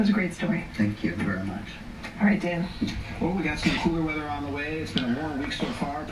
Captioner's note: weather continues in background; sobbing